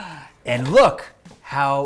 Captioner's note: gasps